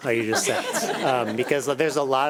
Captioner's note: everyone laughing